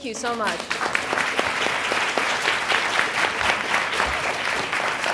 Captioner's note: people applauding